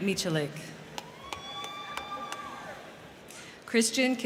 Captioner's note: crowd cheering; crowd clapping